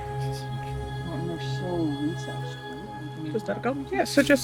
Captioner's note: group chattering indistinctly